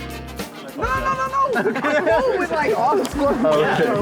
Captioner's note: group chatter